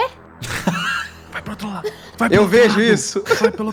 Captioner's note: laughter